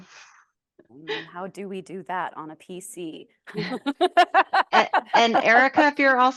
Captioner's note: laughs